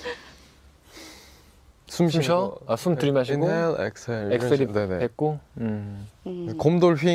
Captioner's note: breathes